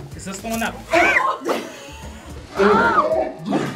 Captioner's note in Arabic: كلاهما يصرخ